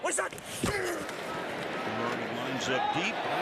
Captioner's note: grunting